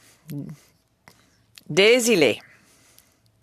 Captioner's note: speaking French